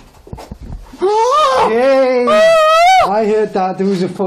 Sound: gasping

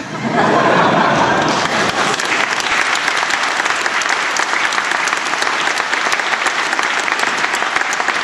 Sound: laughter; applause

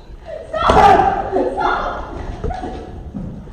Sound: screams

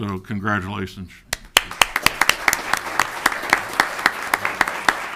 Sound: audience applauding

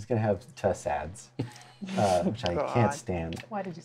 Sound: laughs

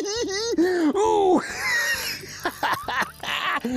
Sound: giggles

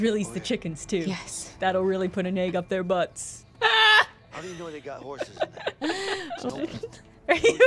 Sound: laughter

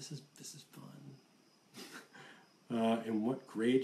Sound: laughs

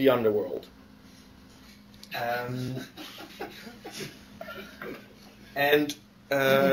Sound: laughter

